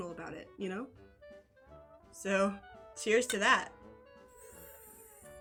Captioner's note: clinking noise; sipping